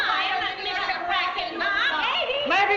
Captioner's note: women clamoring